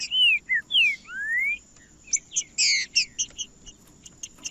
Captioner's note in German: trinca ferro cantando